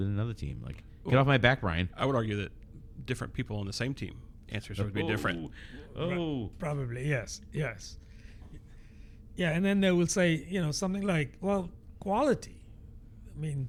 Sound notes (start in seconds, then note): 4.7 uh